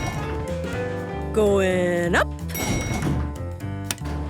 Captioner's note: elevator pings